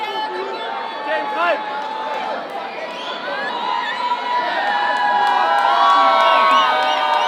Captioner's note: crowd cheering loudly